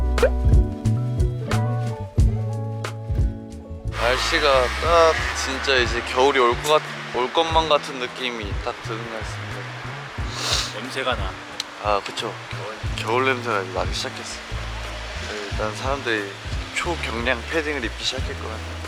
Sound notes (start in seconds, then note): 10.3 sniffling